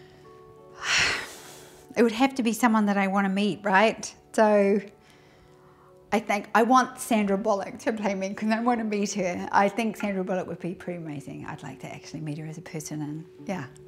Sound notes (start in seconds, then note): 0.8 sighs